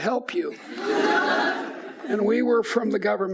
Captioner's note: audience laughs